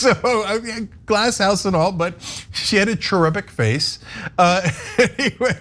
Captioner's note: laugh; laugh